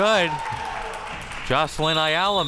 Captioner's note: crowd cheering